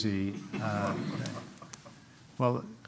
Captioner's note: laughter